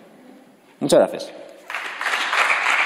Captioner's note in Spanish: Aplausos